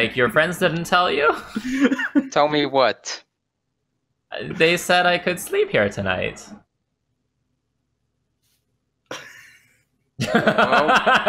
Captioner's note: laughter